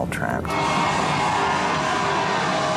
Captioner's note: cheering